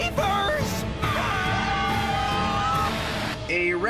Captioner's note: screaming